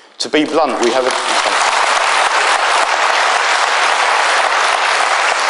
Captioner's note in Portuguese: aplausos